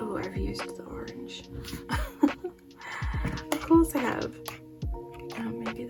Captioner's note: laughs